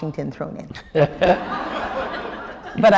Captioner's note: laughter